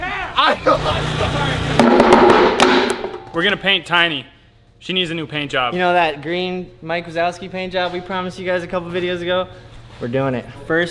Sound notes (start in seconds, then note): 0.6 laughing; 1.8 bang on table